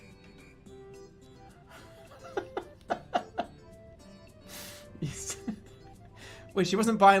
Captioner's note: giggling